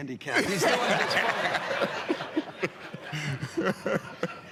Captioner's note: laughter